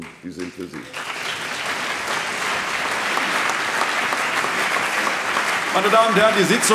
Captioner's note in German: Lebhafter Beifall CDU, BÜNDNIS 90/DIE GRÜNEN, SPD und LINKE